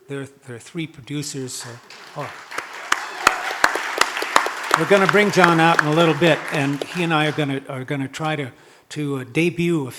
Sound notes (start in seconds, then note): 1.5 audience clapping